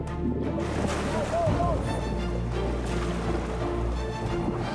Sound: intense music; water splashing

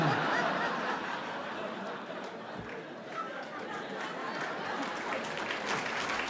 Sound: laughter and applause

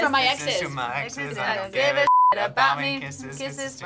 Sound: beep

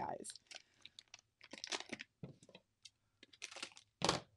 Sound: packaging rustles

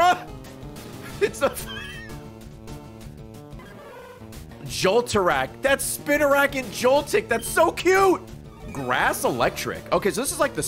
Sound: laughs

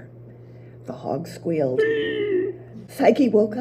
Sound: squeals

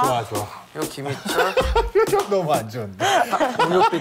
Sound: laughs

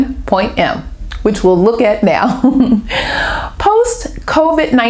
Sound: laughter

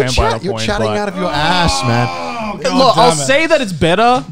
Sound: groaning

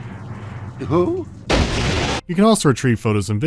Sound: bam

